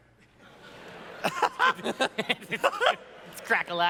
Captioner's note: laughter